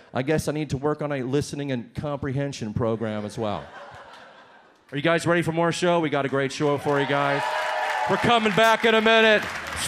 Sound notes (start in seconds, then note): 3.0 audience laughs; 6.3 audience cheers and applauds